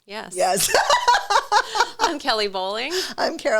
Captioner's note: laughs